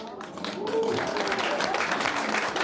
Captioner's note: audience applauding